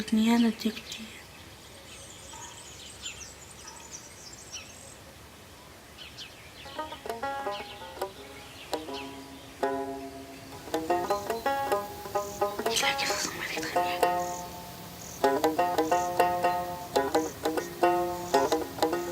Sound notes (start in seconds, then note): 12.3 non-english speech